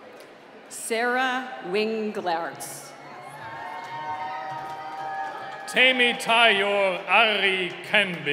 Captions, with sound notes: - Sarah Winglarence. (cheering) - Tamy Tiyol Ali Kembe.